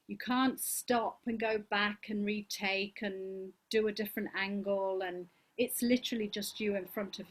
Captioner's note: none